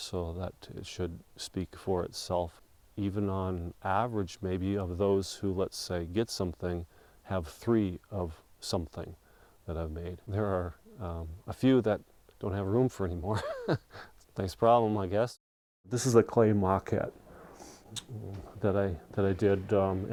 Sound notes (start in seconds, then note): 13.3 laughing